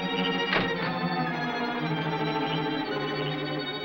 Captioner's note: car door shuts